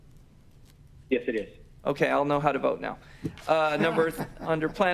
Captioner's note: laughter